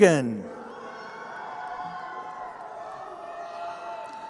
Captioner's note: crowd cheering